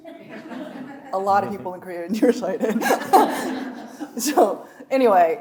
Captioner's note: audience laughs; chuckling